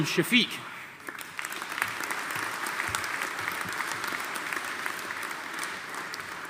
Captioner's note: audience applauding